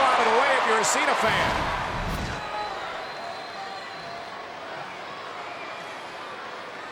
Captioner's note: body thudding; graphics whooshing